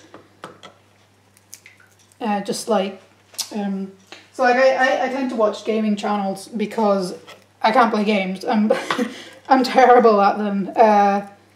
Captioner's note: laughs